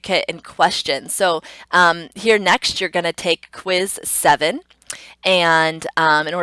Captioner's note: tongue clicks